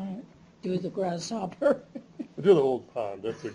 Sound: chuckles

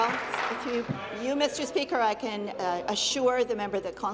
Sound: applause

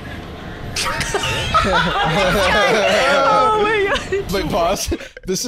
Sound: all laughing

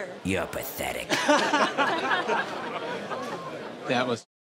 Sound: group laughs

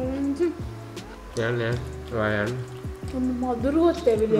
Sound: a fly

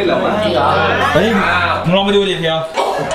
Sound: pat

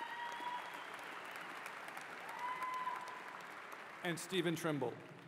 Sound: applause

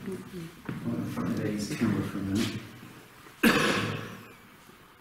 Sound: pat; coughing

